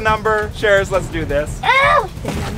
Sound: screams

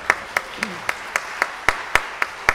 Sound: audience applauding

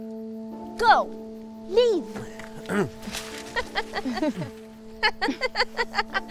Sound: laughing

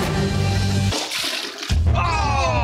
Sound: vomit splashing in toilet; exclaim

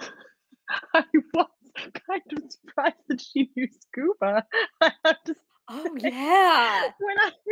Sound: laughs

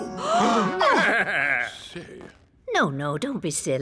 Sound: whispers; gasps

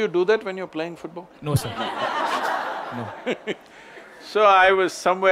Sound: laughter

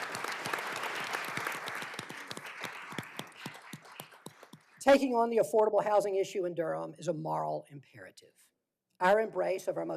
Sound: applause

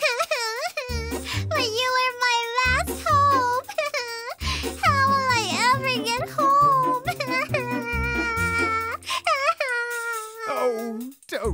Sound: sob

